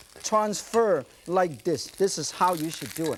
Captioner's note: none